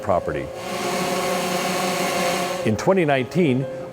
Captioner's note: drone buzzing